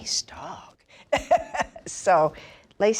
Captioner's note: laughs